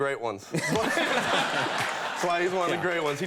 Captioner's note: audience laughing